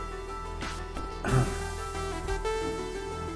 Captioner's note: clears throat